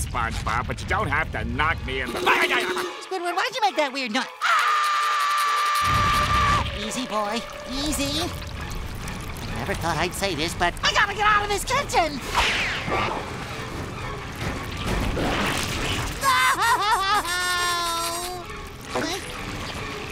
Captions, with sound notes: but you don't have to knock me in the... Ayayabagh! Squidward, why'd you make that weird noi... [screaming] Easy boy. Easy. Never thought I'd say this, but, I've gotta get out of this kitchen! [sobbing] No! Huh?